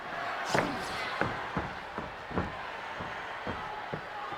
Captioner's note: footsteps thumping